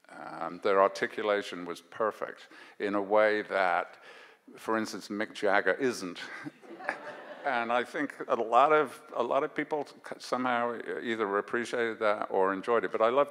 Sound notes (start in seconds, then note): 6.5 audience laughs